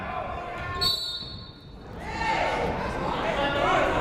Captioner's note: whistle blows